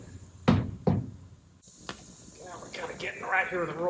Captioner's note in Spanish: golpeando